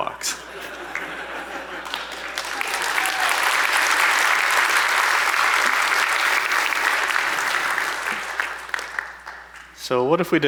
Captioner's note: applause